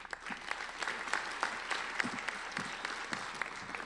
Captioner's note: applauding